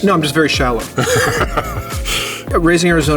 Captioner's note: Theo laughs